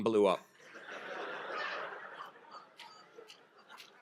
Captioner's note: laughter